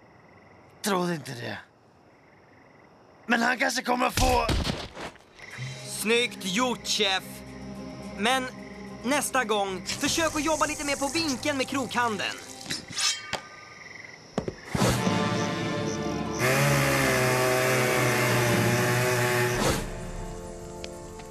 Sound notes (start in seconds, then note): 16.3 chainsaw revving